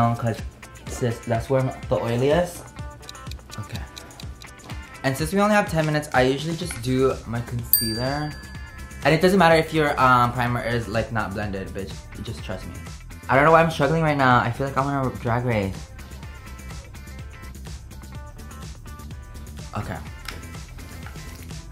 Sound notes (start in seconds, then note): 3.0 ticking